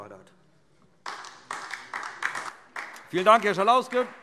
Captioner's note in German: Beifall DIE LINKE